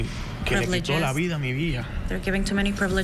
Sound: spanish

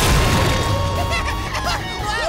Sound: laughing

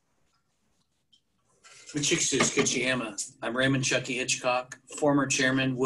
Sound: speaks native language

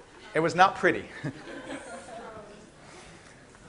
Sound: laughing

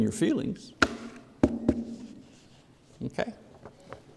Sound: papers tap loudly on podium

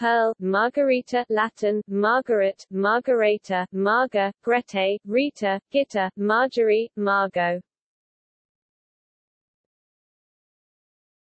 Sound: Latin

